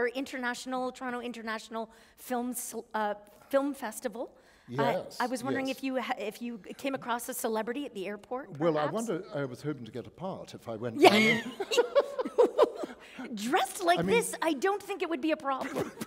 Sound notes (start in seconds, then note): 11.0 laughter